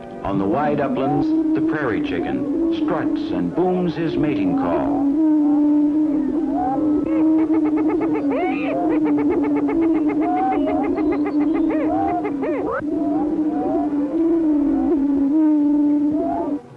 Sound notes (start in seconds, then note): 2.6 prairie chicken sounds